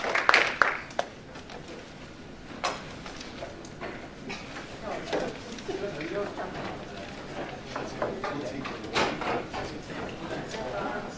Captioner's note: applause; audience talking